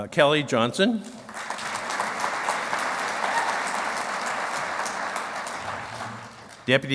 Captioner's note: clapping